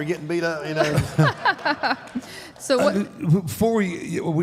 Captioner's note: Michelle laughs